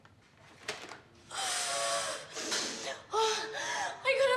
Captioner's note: exhales heavily